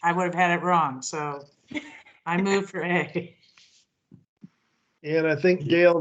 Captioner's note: chuckles